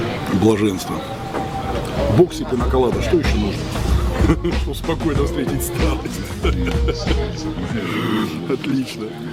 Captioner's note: laugh